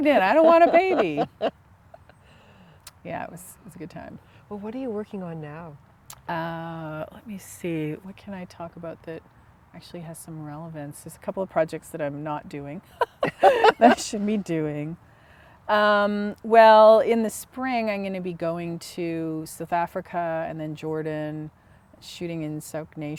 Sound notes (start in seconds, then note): 13.0 laughter